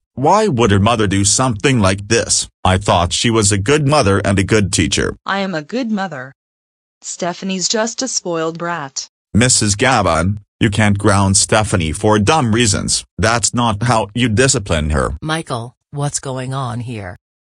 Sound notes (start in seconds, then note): none